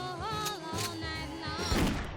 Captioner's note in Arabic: طلقة نارية